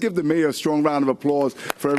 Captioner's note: applause